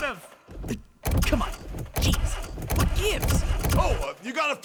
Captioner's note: engine crank; engine cranking